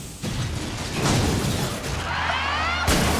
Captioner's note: air hisses; car crashes; work truck thuds; Mia screams; metal crunches